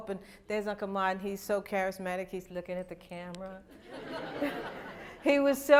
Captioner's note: laughter